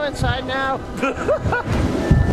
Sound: laughter

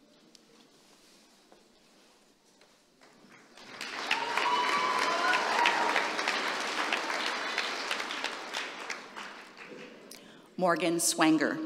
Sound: applause

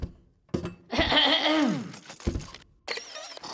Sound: Leo clears his throat; slurping

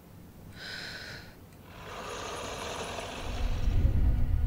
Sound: whisperey breath

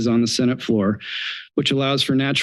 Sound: inhales

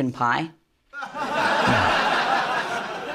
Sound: laughter

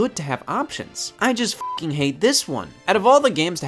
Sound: beep

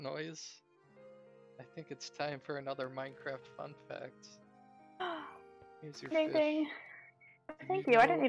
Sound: gasps

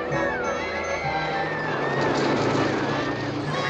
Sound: people Shrieking

